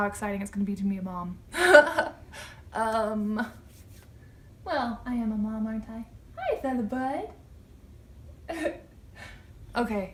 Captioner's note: laughter